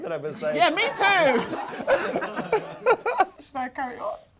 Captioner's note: both laughing